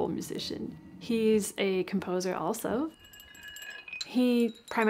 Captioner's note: rattling